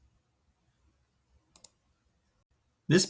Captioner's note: mouse clicks